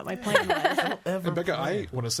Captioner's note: laughs